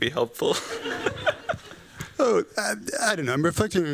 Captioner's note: laughs